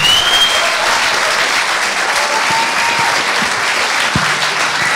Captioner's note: audience continues cheering